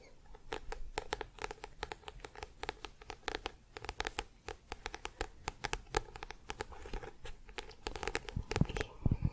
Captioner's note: tapping on book